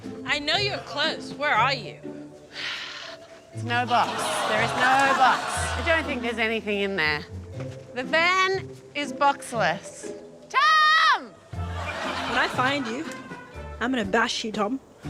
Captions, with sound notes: I know you're close. Where are you? (SIGHS) There's no box. There is no box. I don't think there's anything in there. The van is boxless. Tom! When I find you, I'm gonna bash you, Tom.